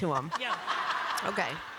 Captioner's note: laughter